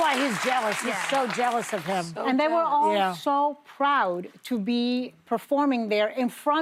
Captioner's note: applause